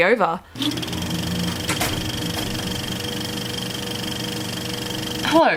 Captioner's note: old projector sound effect